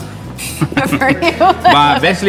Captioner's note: chuckles